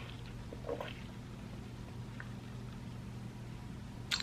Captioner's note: gulps